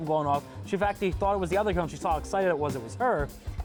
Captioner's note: speaks rapidly